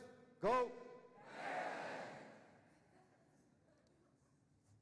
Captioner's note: audience shouting